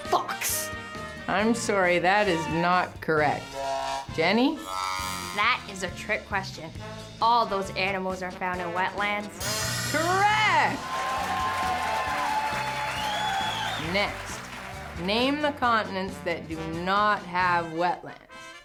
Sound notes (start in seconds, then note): 4.6 buzz sound; 10.7 audience cheers